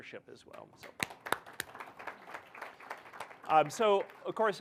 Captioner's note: audience applauding